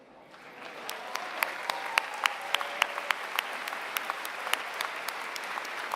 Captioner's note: applause